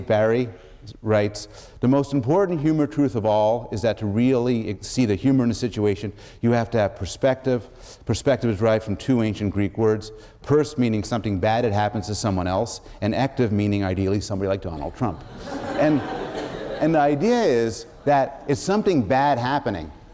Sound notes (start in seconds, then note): 14.8 laughter